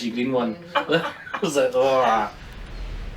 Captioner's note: laughing